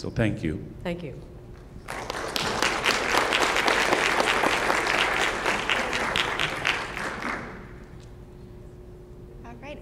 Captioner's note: applause